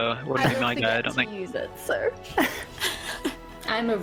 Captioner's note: laughs